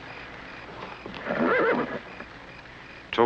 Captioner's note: horse neighing